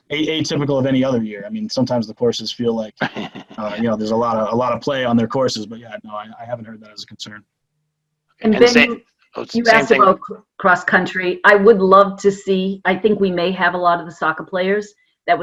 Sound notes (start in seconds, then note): 3.0 laughs